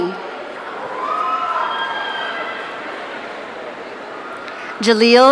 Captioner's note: audience cheering